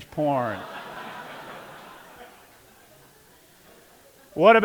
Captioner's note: laughter